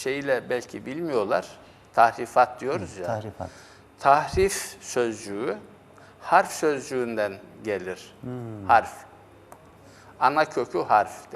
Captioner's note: distortion